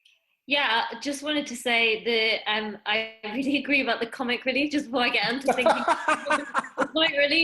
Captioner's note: DLlaughs